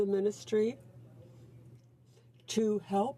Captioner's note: speaking French